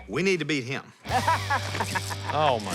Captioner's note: laughing